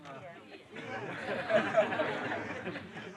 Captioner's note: laughter